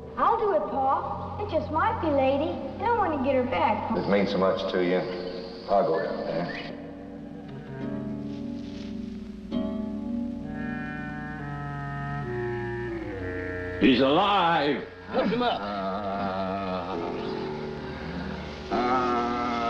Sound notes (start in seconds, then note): 15.8 Joe wailing